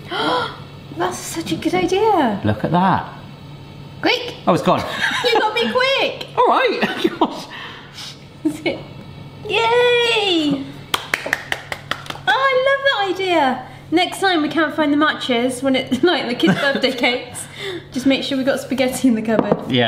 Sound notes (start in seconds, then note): 5.3 laughing; 10.9 clapping